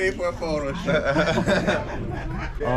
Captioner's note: all laughing